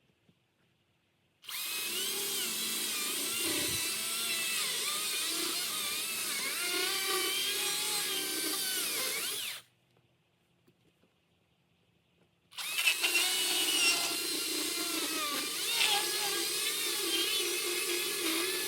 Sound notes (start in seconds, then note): 1.5 sawing sounds; 12.6 sawing sounds